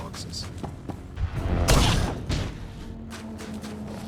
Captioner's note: explosion